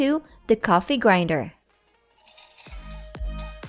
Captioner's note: metal clanking